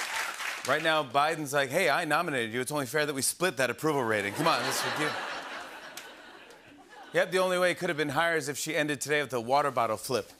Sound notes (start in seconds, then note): 0.0 cheers and applause; 4.2 laughter